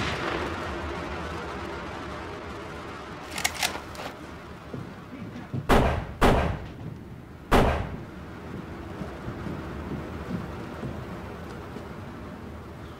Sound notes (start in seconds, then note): 5.6 guns fire